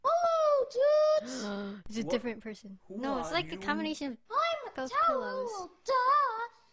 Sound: gasp

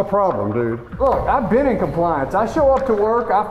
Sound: voiceover

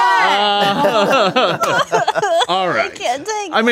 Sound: all shouting

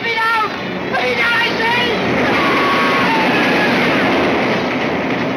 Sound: Mortis screams

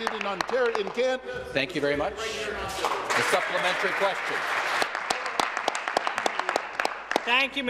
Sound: applause

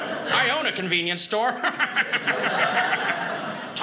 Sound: audience laughing

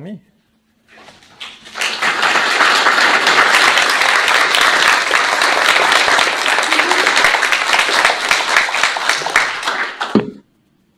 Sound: audience claps

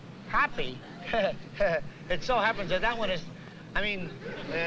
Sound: nervously chuckles

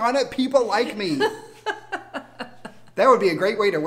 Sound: laughs

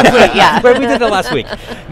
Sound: laughs

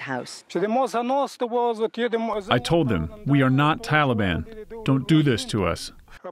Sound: through translator

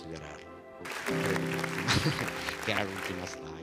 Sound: Applauso

